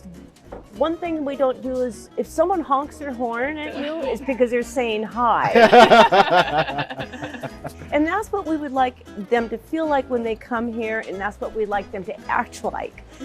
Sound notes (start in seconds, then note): 5.4 laughter